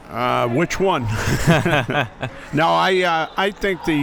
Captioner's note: both laughing